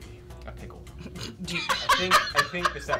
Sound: laughing

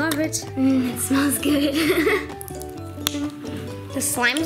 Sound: laughs

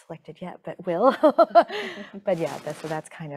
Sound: laughing

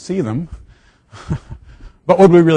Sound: laughing

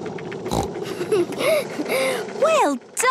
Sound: giggles, snorts

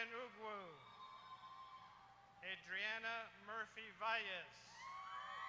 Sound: applause

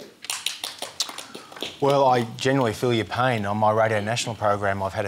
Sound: ripple of applause

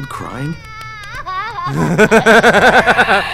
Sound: voiceover; crying; laughs

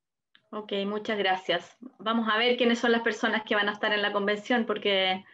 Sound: speaking Spanish

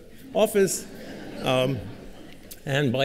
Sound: laughter

